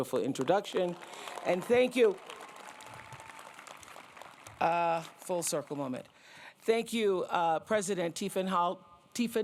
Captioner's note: applause